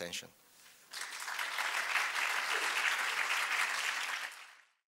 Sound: applause

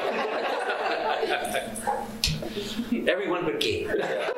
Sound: laughter

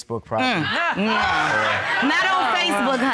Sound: scoffs

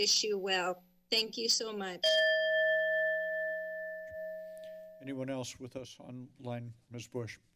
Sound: bell rings

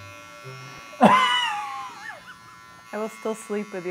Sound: laughing

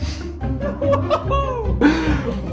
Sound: laughs

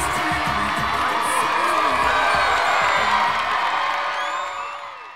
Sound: audience applauding

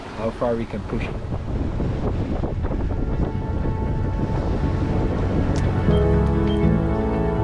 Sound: wind blowing; upbeat music

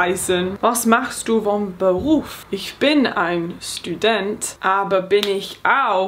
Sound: speaking in foreign language

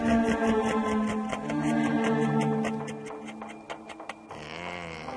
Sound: maniacal laughing

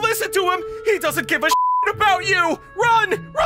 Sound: beep

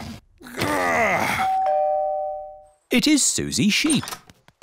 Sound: groans; doorbell rings

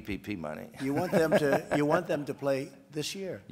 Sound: laughs

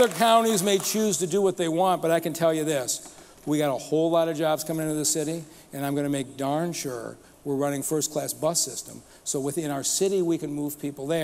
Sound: applause

